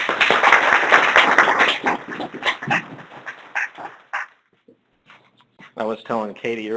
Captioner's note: applause